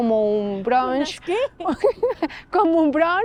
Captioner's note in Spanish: Risas